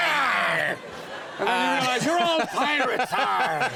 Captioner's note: audience laughs